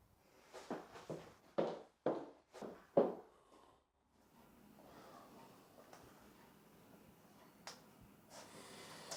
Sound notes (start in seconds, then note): 1.5 footsteps tapping